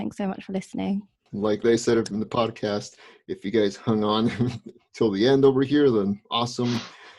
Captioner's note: laughs